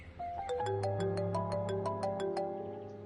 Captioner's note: phone ringing